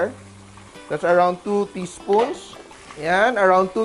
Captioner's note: sizzle; clang; sizzle